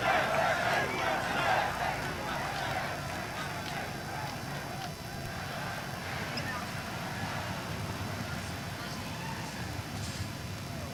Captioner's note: chanting "usa"